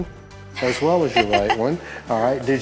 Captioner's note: chuckles